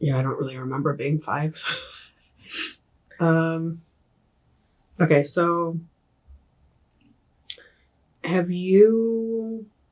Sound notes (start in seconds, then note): 1.6 chuckle